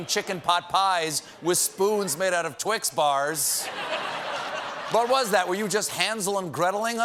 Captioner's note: laughter